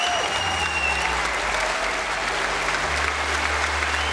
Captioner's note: cheering and applause